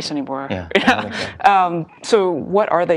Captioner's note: laugh